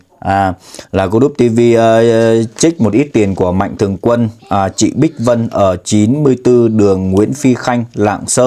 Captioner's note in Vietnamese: khịt mũi